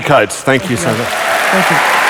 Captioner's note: applause